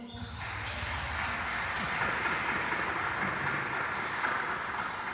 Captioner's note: applause